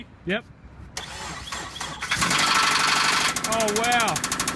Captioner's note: engine starts and rattles; engine continues rattling